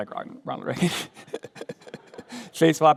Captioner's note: laughter